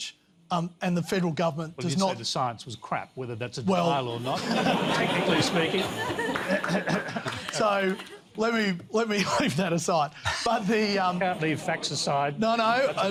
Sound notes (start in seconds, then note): 4.2 laughter